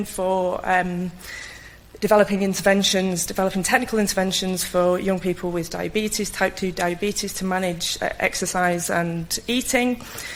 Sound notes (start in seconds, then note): none